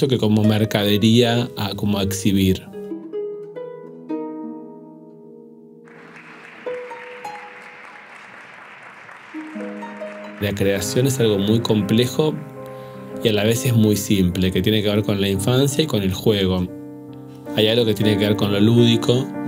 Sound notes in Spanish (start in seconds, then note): 5.8 aplausos